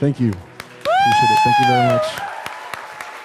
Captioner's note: audience applauding